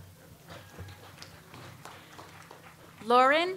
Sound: audience applauds

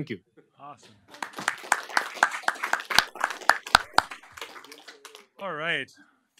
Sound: applause

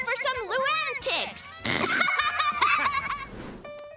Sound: laughing

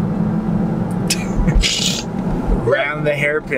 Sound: laughs

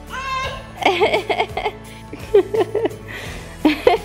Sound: laughter

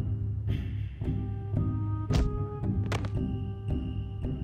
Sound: thud

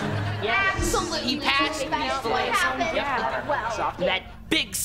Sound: overlapping chatter

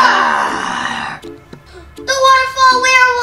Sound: growling

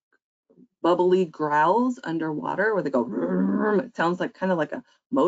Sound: growls

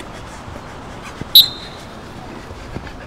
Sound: blows whistle

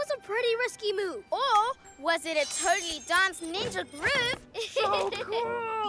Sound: chuckles

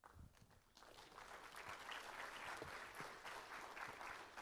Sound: applause

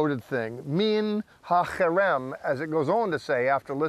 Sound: speaking in Hebrew

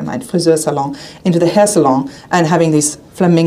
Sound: speaking a foreign language

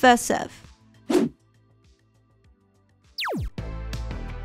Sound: air whooshing; electronic music; laser whooshing

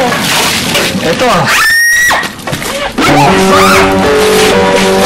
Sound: screams

